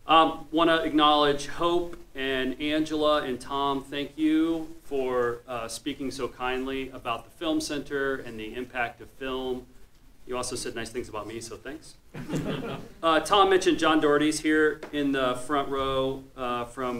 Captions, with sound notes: Wanna acknowledge Hope, and Angela, and Tom, thank you for speaking so kindly about the film center and the impact of film. You also said nice things about me, so thanks. (man laughs) Tom mentioned, John Daugherty's here in the front row